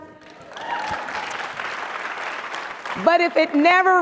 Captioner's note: audience cheers and applauds